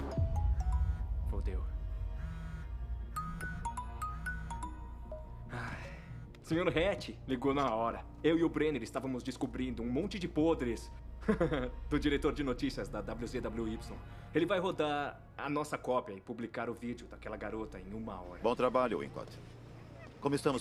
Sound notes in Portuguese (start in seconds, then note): 0.0 telefone tocando; 3.2 telefone continua tocando; 5.5 suspiro; 11.2 risos